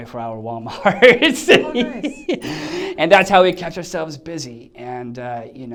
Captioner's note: laughs